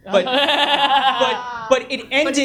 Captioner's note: audience laughs